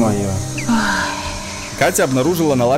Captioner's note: heavy sighs